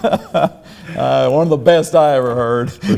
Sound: laughing

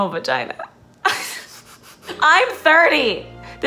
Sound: laughs

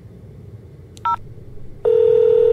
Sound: beep

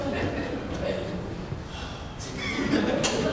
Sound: chuckling; sighing; laughing

